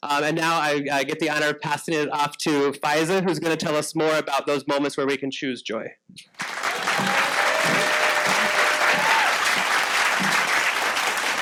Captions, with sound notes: And now I get the honor of passing it off to Faiza who's gonna tell us more about those moments where we can choose joy. (audience applauding)